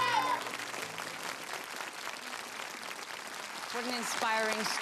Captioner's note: audience applause